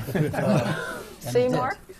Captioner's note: laughter